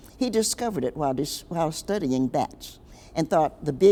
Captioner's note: none